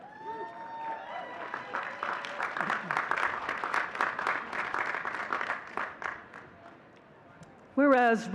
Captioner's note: audience cheering and clapping